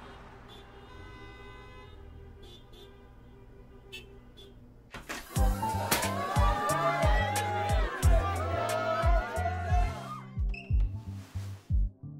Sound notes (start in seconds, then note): 0.0 traffic continues honking; 5.4 partygoers chattering